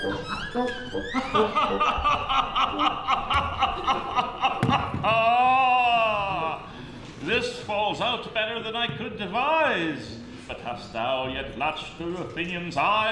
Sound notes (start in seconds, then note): 0.9 loud male laughter